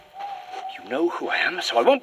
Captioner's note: soft night nature atmos - owl hooting, rustling breeze